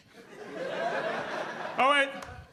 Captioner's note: audience laughing